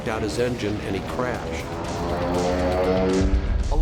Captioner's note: plane engine sound